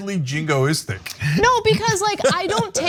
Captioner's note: laugh